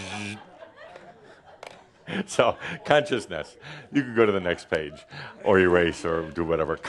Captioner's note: more laughter